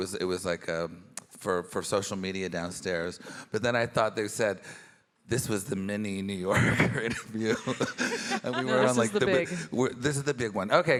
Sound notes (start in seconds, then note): 6.6 chuckles